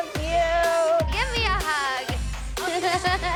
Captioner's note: laughs